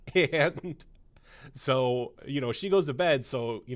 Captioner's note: laughs